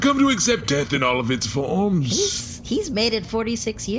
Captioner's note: optimistically